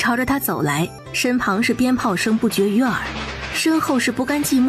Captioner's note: firecracker sounds